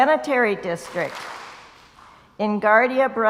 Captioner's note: crowd applauds